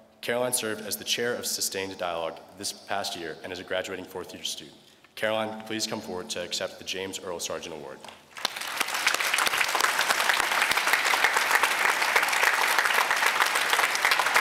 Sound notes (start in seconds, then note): 8.3 applause